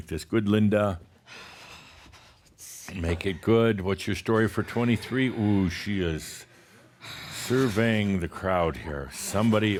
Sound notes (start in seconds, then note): 4.2 whispers